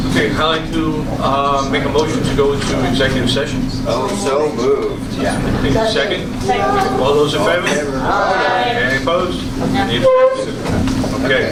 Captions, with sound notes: Yes. Okay I’d like to make a motion to go into executive session. So moved. Second? Second. All those in favor? [A chorus of ayes] Any opposed? Any abstentions? Okay.